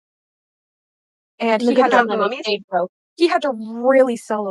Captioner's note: chatter